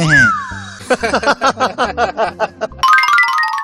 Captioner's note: all boys laughing